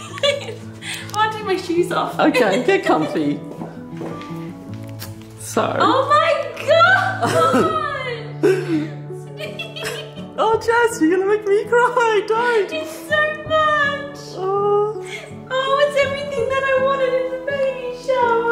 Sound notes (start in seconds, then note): 0.0 laughs; 6.6 laughs; 13.9 crying